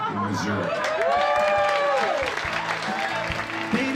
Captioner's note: cheering